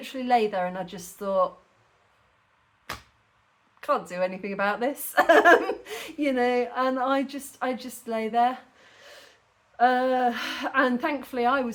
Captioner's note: laughing